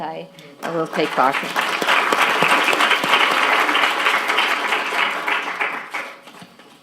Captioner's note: applause